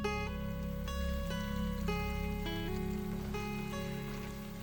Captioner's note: slow gentle bright music; water sloshing